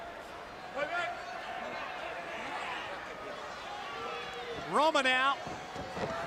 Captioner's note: crowd chattering